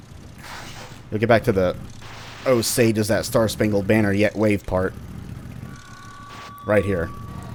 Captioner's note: speaker Feedback